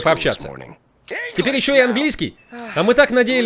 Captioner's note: <i>sighs</i>